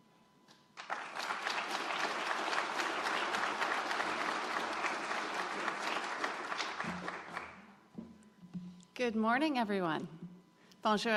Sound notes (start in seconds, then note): 0.5 applause